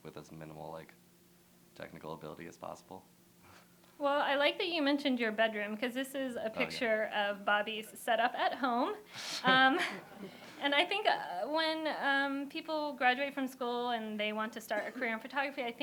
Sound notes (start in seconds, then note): 9.4 laughter